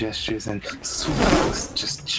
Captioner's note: shhhoooowwphhh